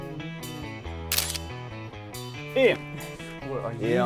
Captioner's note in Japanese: シャッター音